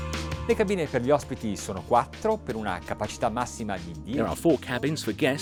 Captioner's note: speaking Italian